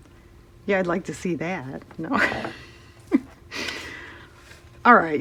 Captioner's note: laughs